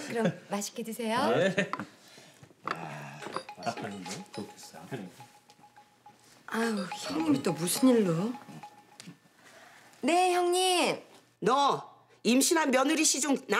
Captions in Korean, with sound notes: -그럼 맛있게 드세요. -네. -(휴대전화벨 소리) -어우, 형님은 또 무슨 일로. 네, 형님~ -너! 임신한 며느리 시종